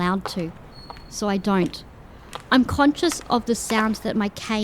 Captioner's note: sound of footsteps and cane echoing off stone walls and floors